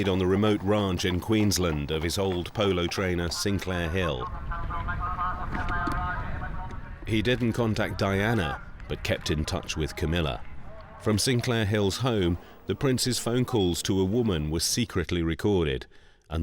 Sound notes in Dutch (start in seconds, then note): 4.3 omroeper gedempt spreken